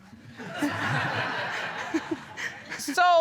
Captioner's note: audience laughing